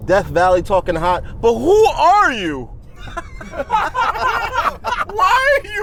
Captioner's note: group laughs